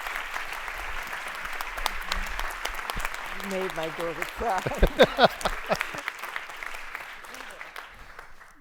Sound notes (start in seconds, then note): 4.4 laughs